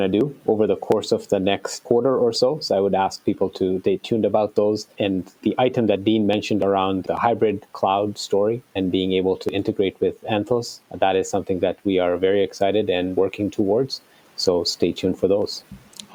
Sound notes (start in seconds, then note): none